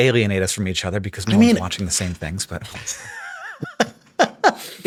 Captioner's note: chuckles; Sam laughs